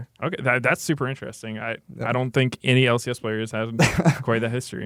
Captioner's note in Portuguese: risos